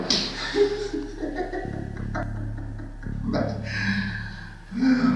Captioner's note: laughs